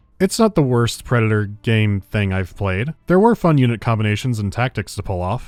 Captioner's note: none